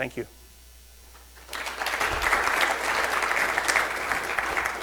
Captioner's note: crowd applauds